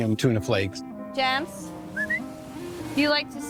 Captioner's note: whistles